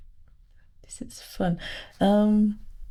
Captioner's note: quietly